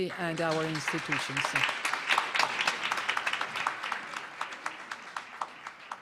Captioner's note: audience applauding